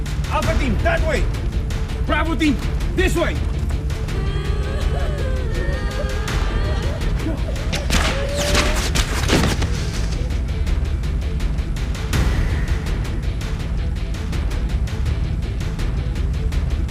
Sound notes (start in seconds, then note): 3.8 women crying; 8.5 bodies thudding